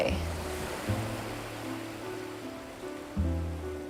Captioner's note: sound of surf